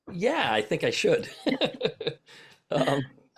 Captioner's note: chuckles